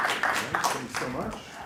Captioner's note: audience applauding